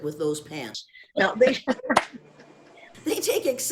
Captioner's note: laughs